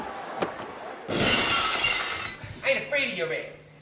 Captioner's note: glass shatters